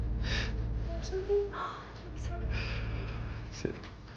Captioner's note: whimpering